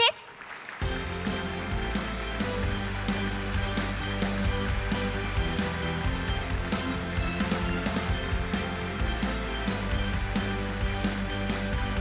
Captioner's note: applause